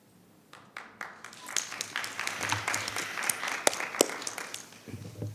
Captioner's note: audience applauding